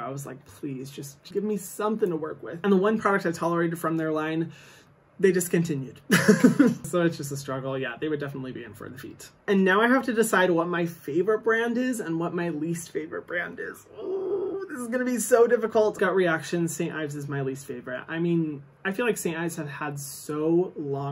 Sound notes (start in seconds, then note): 6.2 laughs; 13.8 groans